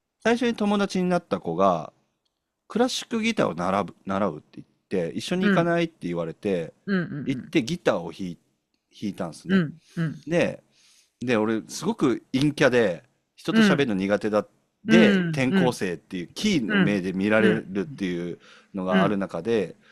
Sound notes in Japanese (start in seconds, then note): 9.9 咳払い